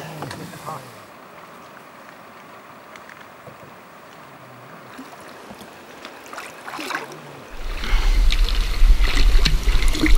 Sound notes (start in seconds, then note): 6.0 water sounds